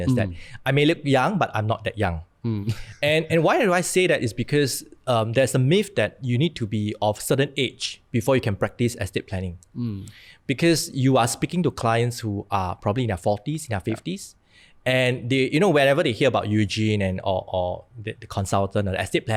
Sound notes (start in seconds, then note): 2.6 chuckles